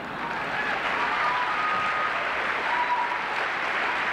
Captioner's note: applause, cheering